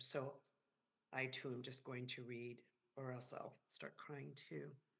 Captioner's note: none